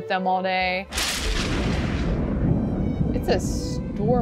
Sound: thunder crashing

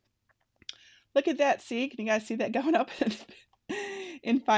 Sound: laughs

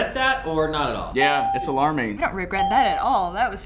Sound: ding

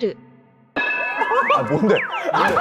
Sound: staff crying

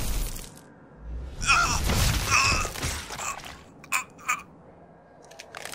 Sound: screaming and pained grunting; sounds of crunching flesh

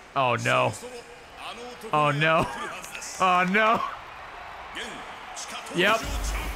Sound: laughs

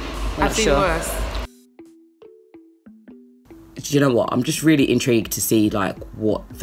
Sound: none

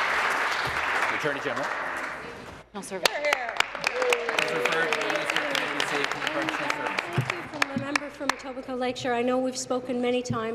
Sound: applause

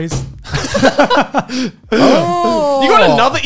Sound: laughs

